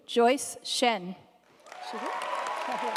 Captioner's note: audience applauding